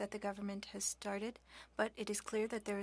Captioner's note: speaking French